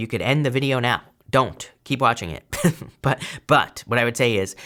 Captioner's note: laughs